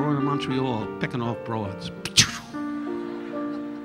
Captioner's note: Don imitating gunshot; audience laughing